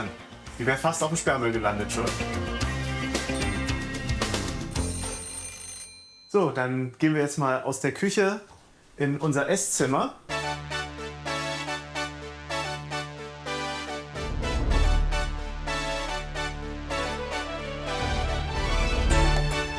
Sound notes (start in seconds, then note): 3.3 ringing; 4.8 rattling; 10.2 lively music